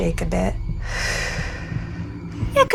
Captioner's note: breathes deeply